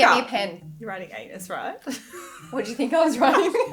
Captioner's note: laughing